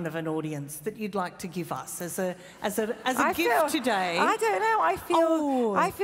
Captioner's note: laughs